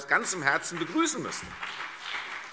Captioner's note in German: Beifall CDU und BÜNDNIS 90/DIE GRÜNEN